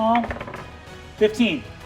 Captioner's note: die rolling